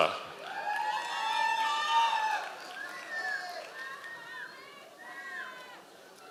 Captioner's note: members of the audience cheering